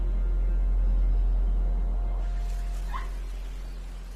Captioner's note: monkey squawks